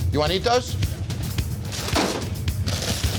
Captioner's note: rustling; slam